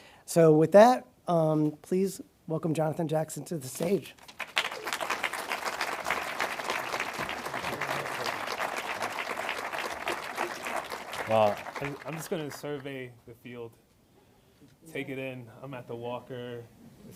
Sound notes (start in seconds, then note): 4.2 audience applauding